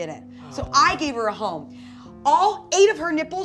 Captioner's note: sighing